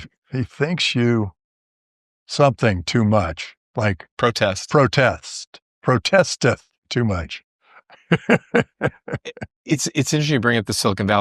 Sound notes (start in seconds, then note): 7.9 laughter